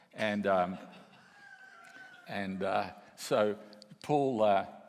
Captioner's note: and audience laughs